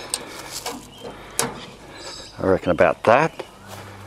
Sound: foliage crunches; latch clicks

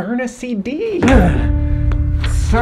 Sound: tense music; 2020s exhales

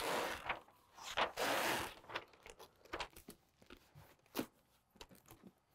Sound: insulation paper ripping

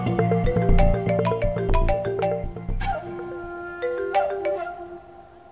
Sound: phone rings

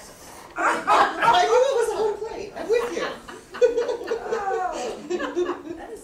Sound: audience continues to laugh

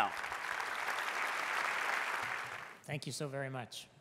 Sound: applause

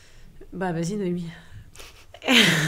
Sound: speaks French; laughs

